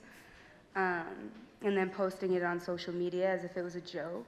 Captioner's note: none